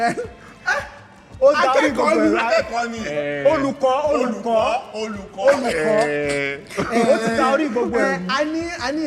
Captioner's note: laughs